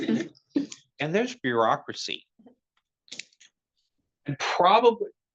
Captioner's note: attendees laughing